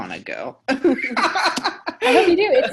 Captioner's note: both laughing